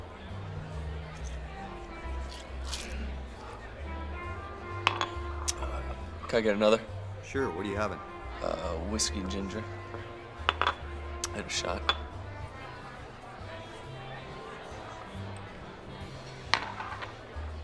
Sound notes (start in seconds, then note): 0.2 crowd chattering over pleasant big band music; 10.4 glass clanking; 13.3 crowd chattering over pleasant big band music